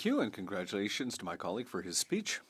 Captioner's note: speaking French